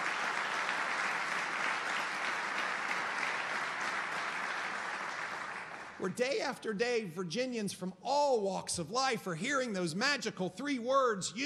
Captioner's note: applause